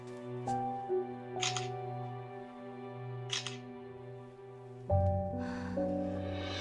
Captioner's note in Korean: 카메라 셔터 소리